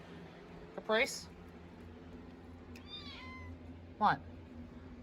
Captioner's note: meows